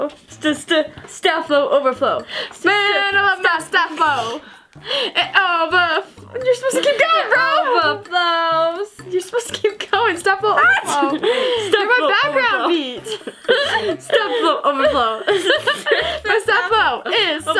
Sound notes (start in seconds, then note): 13.0 laughing